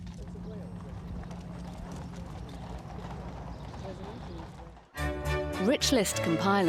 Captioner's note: people chattering; bright music